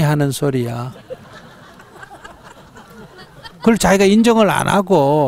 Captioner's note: audience Laughter